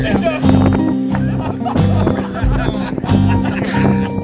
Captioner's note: laughing